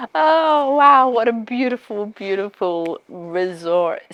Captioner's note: laughs